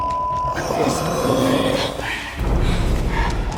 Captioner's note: creature growls